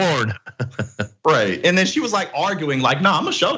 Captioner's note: laugh